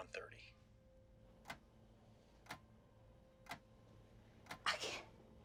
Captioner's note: clock ticking